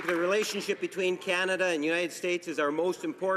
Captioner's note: some Applause